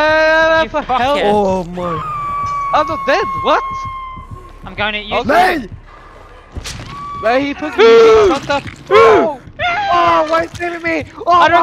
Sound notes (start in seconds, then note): 8.9 screaming